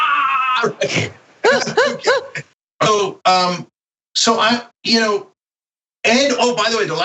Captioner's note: laugh